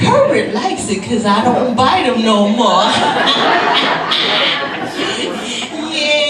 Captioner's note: laughs